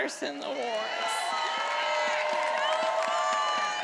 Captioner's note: attendees applauding and cheering